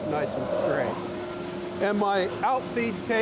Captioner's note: saw whirring